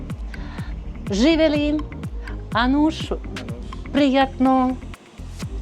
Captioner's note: in Serbian and Armenian